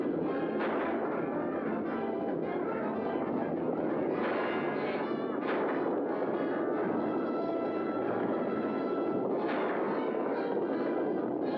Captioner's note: dramatic music; hooves pounding; gunfire; dramatic music